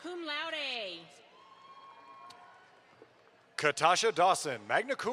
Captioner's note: audience applauds